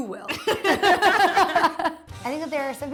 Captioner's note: both laughing